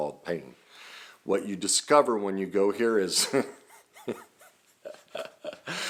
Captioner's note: laughing